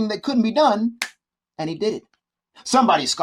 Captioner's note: fingers snapping